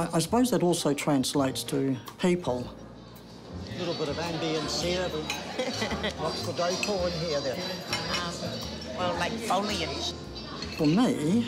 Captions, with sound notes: I suppose that also translates to people. - (PEOPLE CHATTER) - A little bit of ambience here. What's the decor in here, then? - Well, like foliage.